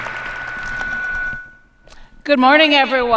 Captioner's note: applause